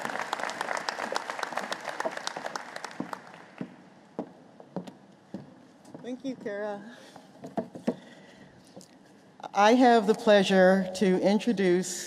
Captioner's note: applause